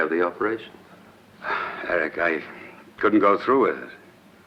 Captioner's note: sighs